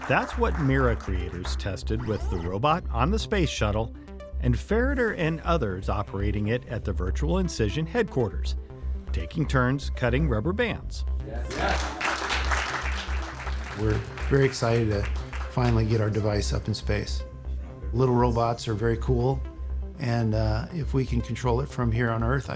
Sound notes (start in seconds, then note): 11.3 people applauding